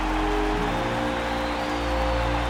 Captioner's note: crowd cheering